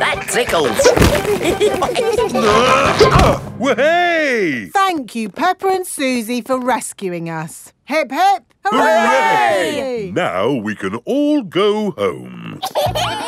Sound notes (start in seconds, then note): 0.1 all giggling; 2.3 grunting; 12.5 kids giggling